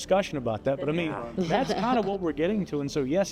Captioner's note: guests chuckle